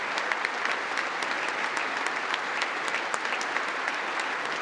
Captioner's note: congress applauding